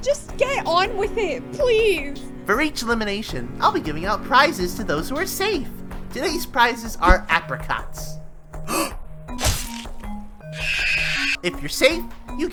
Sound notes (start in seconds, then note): 8.4 Apricot gasps; 10.2 Apricots screams